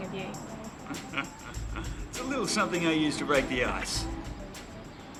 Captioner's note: chuckles